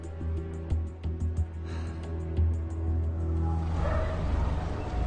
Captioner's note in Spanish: Suspiro